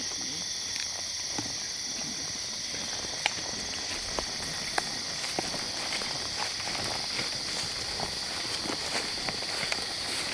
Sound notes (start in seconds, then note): 0.5 insects chirp